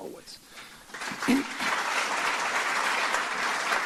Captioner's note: applause